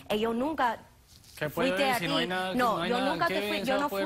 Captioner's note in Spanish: Hablan al unísono